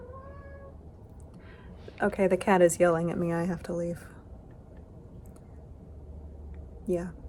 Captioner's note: meow